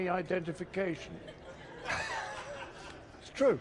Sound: laughs

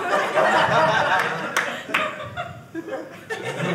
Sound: audience laughing

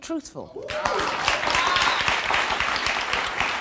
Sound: applause

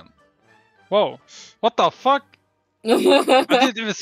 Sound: hahah

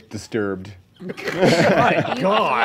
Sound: laughing

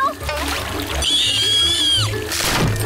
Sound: screaming

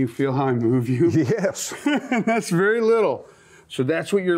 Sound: laughs

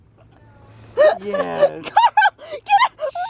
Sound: laughs

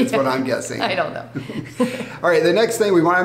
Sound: laughing

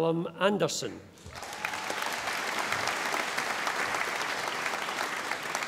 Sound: audience applauding

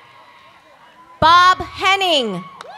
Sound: cheers and applause

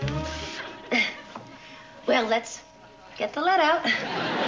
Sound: chuckles

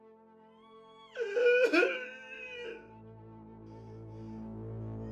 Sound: creature sobs

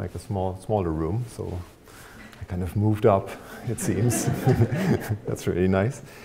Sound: chuckles; audience laughing

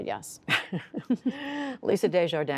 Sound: laughter

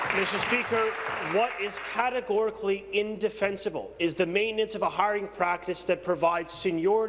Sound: applause

